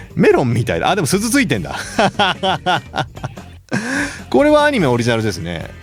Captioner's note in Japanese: 笑い; 息をのむ音